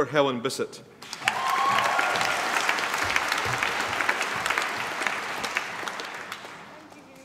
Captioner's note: applause